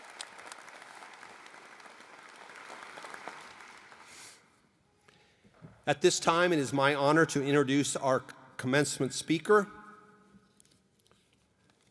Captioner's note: applause